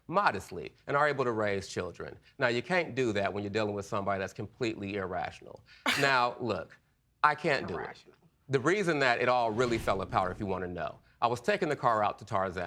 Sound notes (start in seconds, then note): 5.9 scoffs